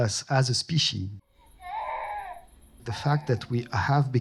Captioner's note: baby crying